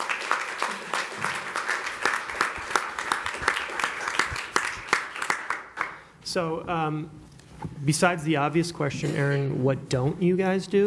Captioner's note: applause